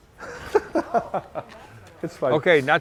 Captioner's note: laughing